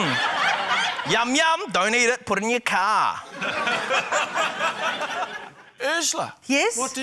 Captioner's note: laughter; laughter